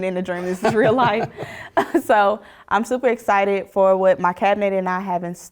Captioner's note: laugh